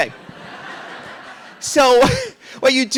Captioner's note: audience laughing